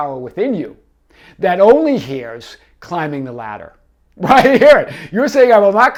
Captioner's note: laughing